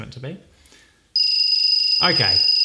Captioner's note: alarm ringing